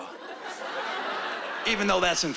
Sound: laughter

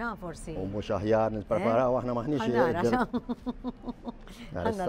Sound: chuckles

